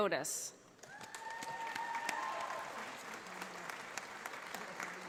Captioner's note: audience applauding